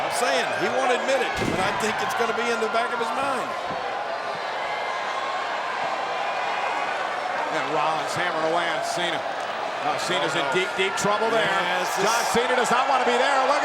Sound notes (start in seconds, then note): 1.0 feet thudding; 1.4 blow thudding